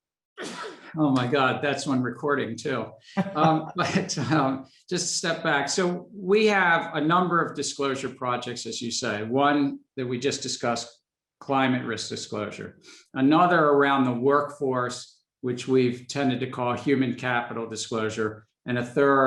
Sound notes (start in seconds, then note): 0.4 sneezes; 3.1 both laughing